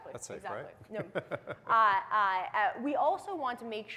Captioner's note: both chuckling